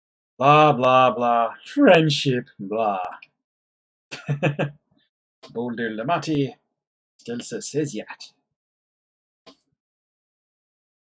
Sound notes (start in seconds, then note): 4.1 chuckles